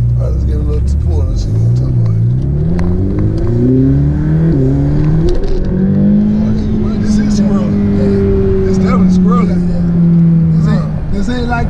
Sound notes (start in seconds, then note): 2.0 engine roaring